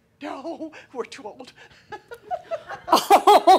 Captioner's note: laughing; she laughs